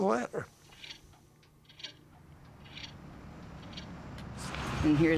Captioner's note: clock ticking